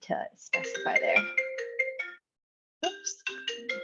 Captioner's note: phone rings